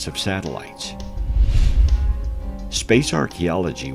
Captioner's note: air whooshing